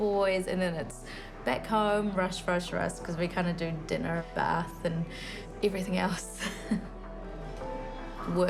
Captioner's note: chuckles